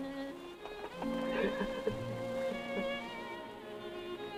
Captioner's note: Jeff crying